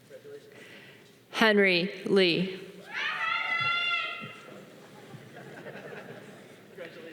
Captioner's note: audience cheering